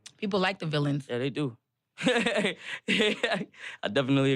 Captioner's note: laughs